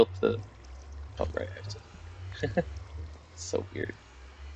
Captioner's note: laughs